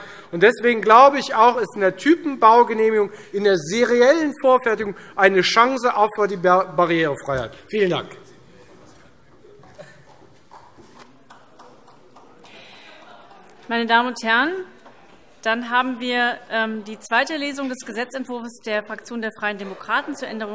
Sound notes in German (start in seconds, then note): 11.2 Beifall